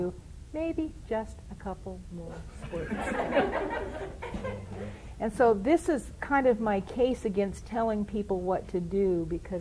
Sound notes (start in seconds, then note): 2.6 laughter